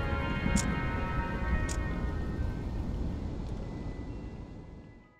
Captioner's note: camera shutter clicking